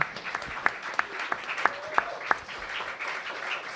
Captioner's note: applause